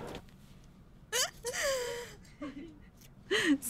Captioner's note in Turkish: Gülüyorlar